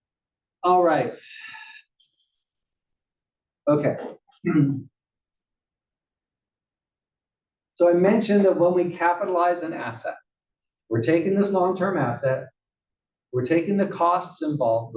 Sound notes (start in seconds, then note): 4.4 cough